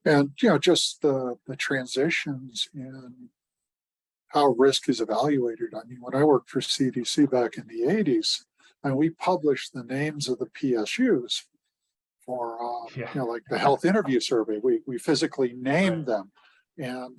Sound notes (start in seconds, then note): 11.5 laughs